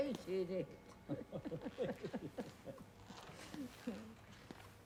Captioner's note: both laughing